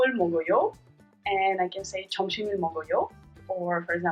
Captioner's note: speaking in Korean